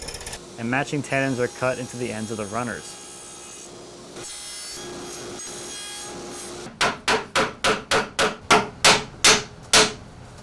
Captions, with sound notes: and matching tenons are cut into the ends of the runners. (high-speed sawing) (gentle hammering)